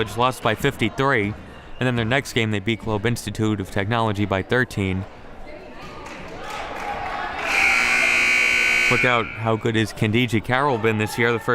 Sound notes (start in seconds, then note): 7.4 buzzer blares